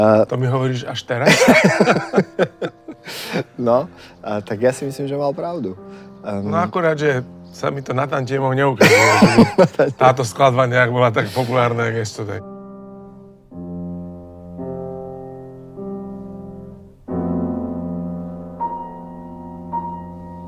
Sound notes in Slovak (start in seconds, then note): 12.7 smiech